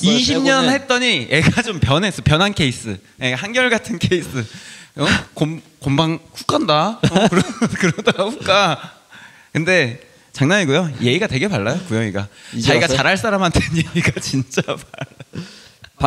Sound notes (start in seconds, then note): 7.0 laughs